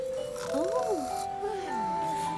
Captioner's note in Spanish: ronquidos